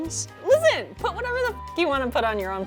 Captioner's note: beep